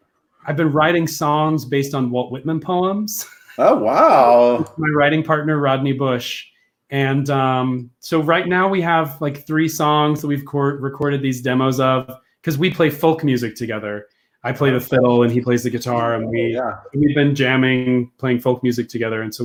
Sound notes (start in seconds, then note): 3.5 laughs